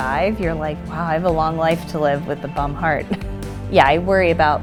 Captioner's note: laughs